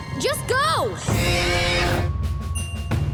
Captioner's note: screeching